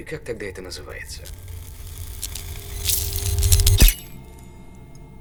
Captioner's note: electricity buzzing